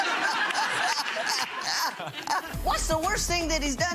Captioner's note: laughing